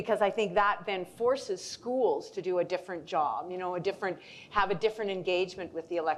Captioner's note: none